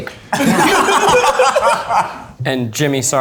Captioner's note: all laugh